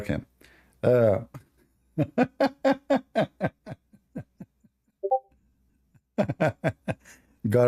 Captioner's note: Ketawa